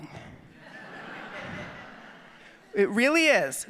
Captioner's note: audience laughing